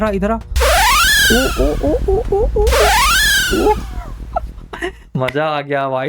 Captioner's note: screams